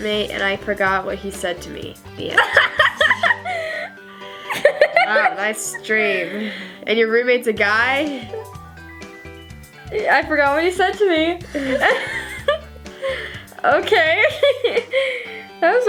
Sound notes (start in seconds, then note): 4.4 laughs; 11.5 laughs; 14.2 laughs